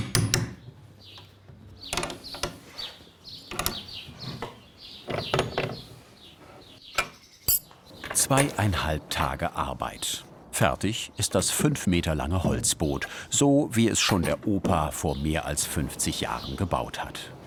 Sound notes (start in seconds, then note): 2.1 birds chirping